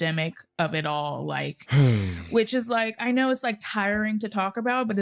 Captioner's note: sighs